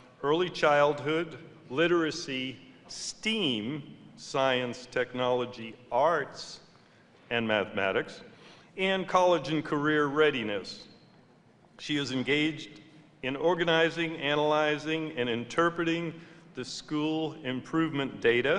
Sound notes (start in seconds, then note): none